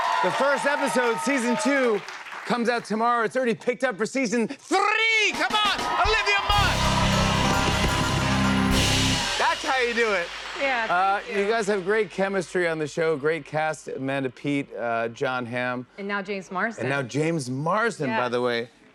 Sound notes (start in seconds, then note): 5.3 cheers and applause